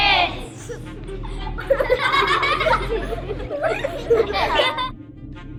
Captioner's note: laughter